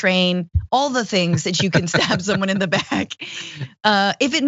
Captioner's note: laugh